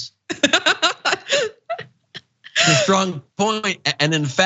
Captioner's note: laugh